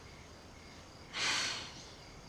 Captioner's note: sighs